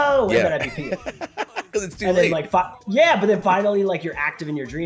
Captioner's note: laugh